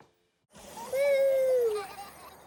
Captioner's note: children giggle